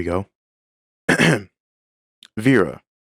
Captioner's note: ahem